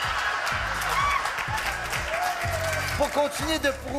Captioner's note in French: rires